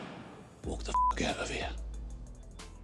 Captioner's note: beeping